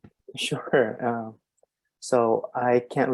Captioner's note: chuckles